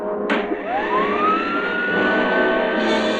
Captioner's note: machine whirring